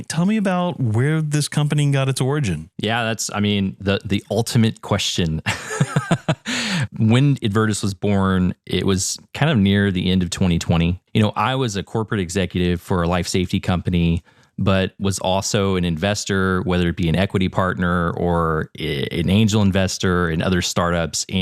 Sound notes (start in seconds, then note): 5.4 laugh